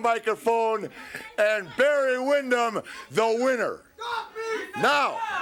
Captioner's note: crowd murmuring